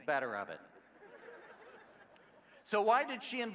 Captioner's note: laughing